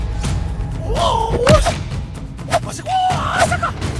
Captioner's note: Yuki shouting